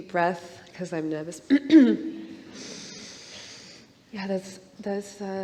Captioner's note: clears throat